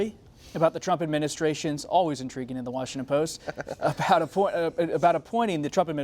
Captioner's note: laughter